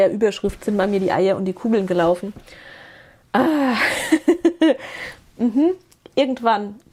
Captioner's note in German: seufzt